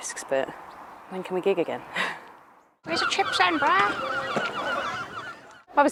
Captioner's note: seagull noises